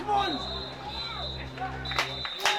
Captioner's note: referees whistle; crowd clapping